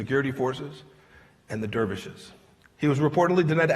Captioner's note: none